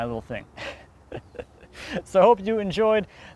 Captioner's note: chuckling